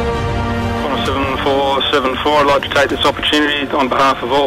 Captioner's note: radio Voice